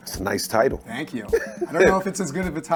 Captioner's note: chuckles